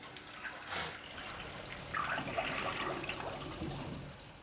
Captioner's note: liquid bubbling